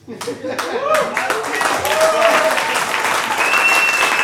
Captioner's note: audience applauding